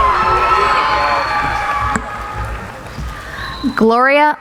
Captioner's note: cheering